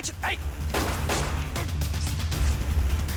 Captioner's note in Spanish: Disparos